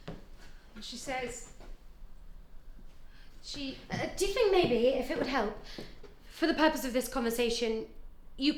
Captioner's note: none